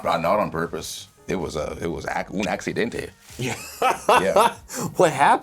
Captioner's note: laughs